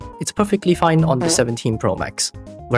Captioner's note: fart